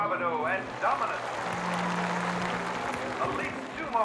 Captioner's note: audience applauding